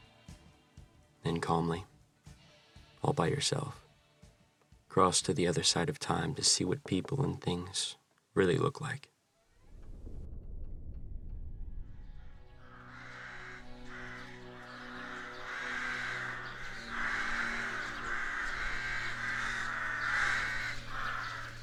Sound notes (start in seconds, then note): 9.7 thunder in distance; 12.3 crows cawing and orchestral music